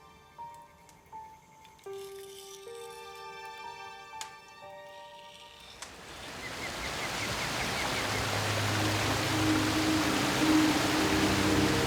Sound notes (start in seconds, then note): 0.1 gentle instrumental music; 5.7 water rushing, birds chirping; 8.0 gentle instrumental music